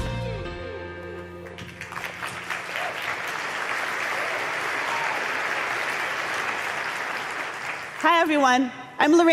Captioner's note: applause